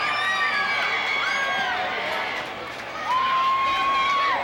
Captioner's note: crowd cheers